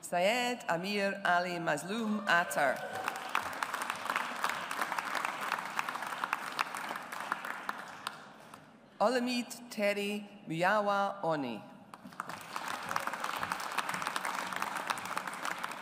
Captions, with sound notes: Seyed Amir Ali Mazloom Attar. (AUDIENCE APPLAUDS) Olumide Terry Muyiwa-Oni. (AUDIENCE APPLAUDS)